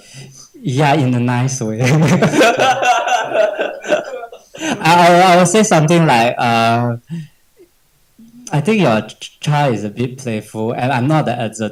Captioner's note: laughs